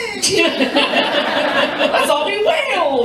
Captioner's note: laughter